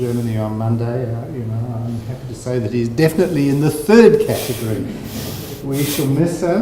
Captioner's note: chuckling